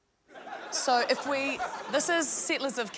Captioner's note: laughter